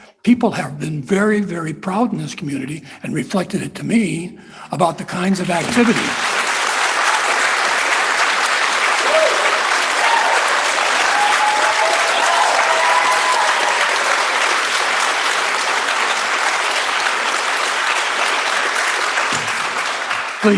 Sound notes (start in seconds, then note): 5.4 applause